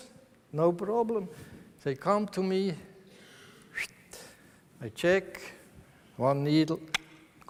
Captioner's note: whistles